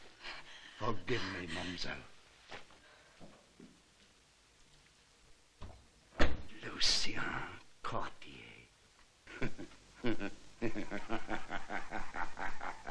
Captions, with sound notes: Forgive me, mademoiselle. - (DOOR CLOSING) - Lucien Cortier. (LAUGHING)